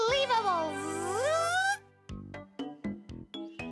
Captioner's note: Tizzy buzzing